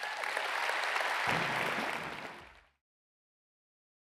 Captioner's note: audience applauds